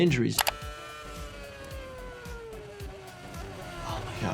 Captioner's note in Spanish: el motor ruge